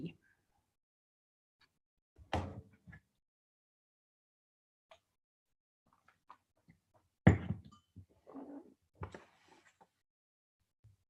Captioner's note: silence